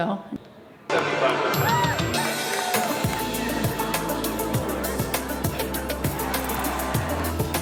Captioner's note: crowd cheering; upbeat music